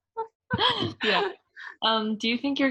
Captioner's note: laughs